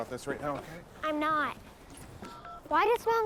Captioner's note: keypad beeps